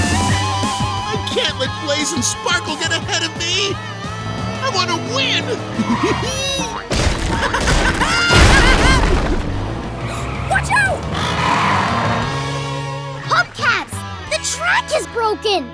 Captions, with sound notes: I can't let Blaze and Sparkle get ahead of me! I wanna win! [laughing] [gasping] Watch out! Hubcaps! The track is broken!